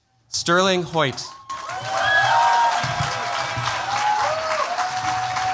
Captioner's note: cheers, applause